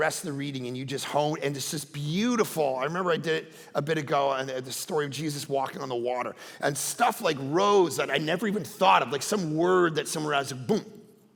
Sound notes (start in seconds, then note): none